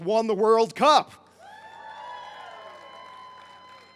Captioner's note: crowd cheers